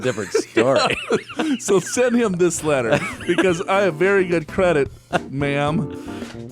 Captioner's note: laughs; laughs